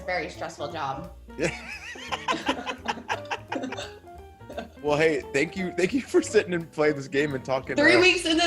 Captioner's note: laugh